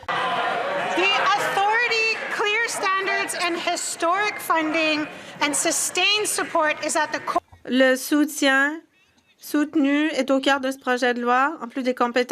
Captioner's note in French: voix de l'interprète